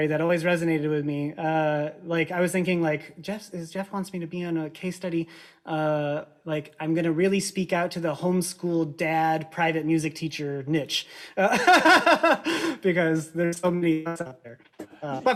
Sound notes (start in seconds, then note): 11.4 both laugh